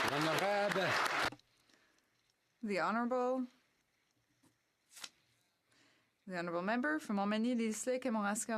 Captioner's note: some Applause